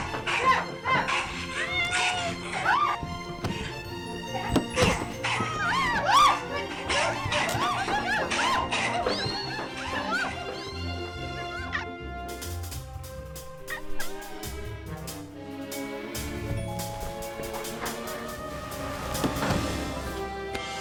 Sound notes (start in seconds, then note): 3.4 thump; 13.5 kitten crying; 15.0 suspenseful music